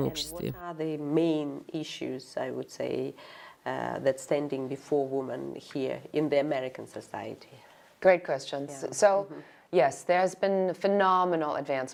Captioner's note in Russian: Разговаривают на английском